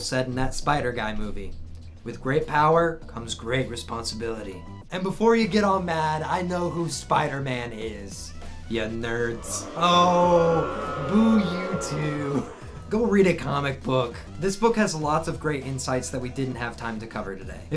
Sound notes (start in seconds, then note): 9.1 booing